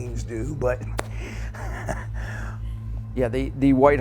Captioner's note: chuckling